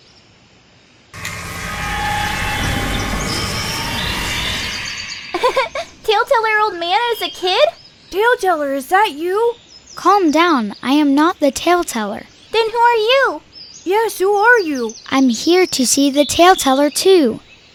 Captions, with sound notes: (wind whirring) - (giggles) Taleteller Old Man is a kid? - Taleteller, is that you? - Calm down. I am not the Taleteller. - Then who are you? - Yes, who are you? - I'm here to see the Taleteller too.